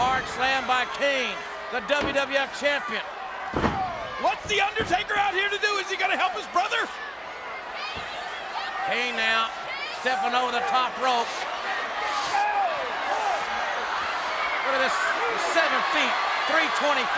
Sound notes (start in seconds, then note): 12.1 audience cheers